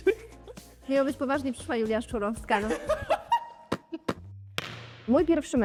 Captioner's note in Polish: śmiech